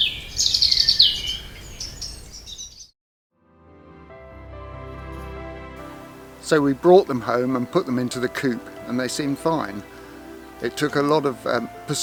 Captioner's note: birdsong